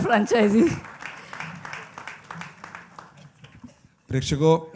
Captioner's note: applause